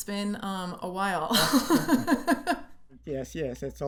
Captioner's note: laughter